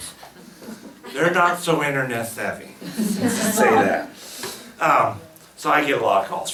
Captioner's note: laughs